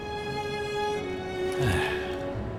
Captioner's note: sighs